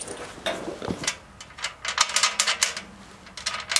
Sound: metallic noise

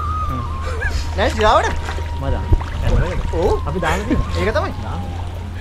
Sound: laughing

